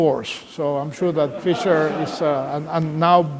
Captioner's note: laughter